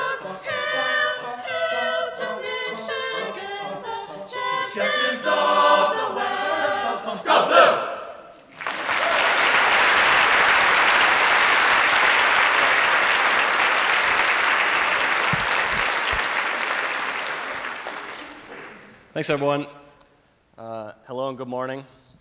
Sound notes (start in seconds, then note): 8.5 applause